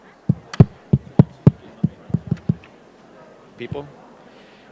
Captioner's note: tapping on microphone